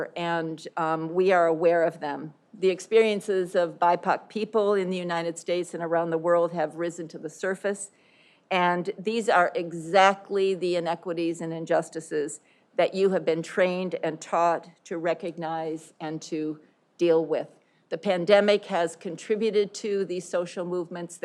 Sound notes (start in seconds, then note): none